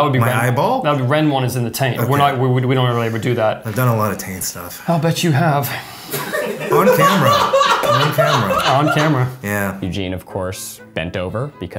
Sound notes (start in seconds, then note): 6.1 laughing